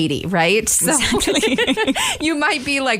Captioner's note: laughter